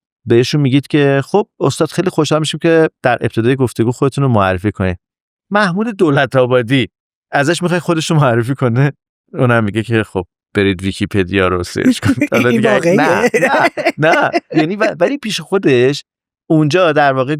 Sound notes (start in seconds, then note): 11.6 laughs